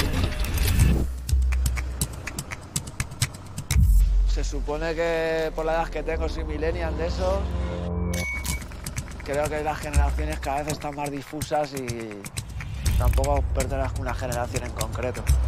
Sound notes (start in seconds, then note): 1.4 claps